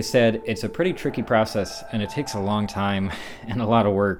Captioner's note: laughs